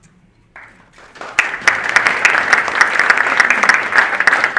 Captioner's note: audience applauding